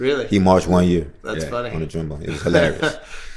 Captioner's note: laughter